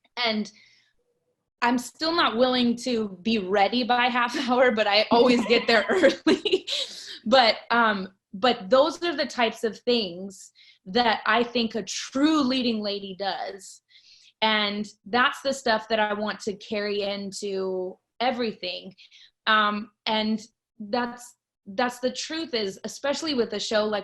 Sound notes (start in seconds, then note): 5.1 laughs